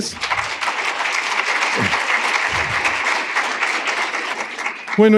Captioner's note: applause